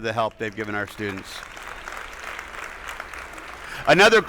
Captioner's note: attendees applauding